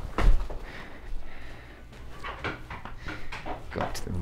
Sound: footsteps

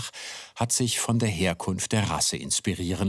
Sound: none

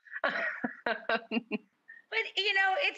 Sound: laughing

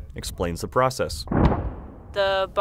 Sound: explosion

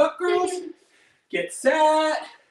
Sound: giggles

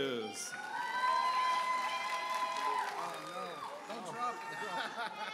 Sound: audience applauding and cheering

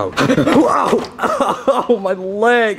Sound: Mario pants, groans

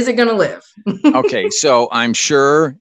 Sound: laughs

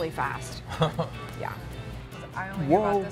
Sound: laughter

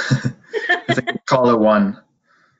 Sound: laughs

